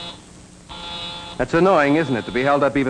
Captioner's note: phone buzzes